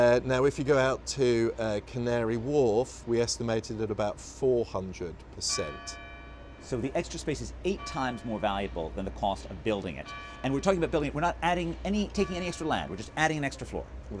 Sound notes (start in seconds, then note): 5.9 bell sounds in background